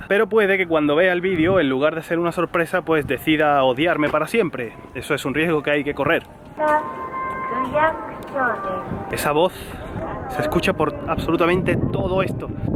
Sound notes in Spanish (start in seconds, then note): 6.4 Altavoz que emite la voz de una mujer hablando japonés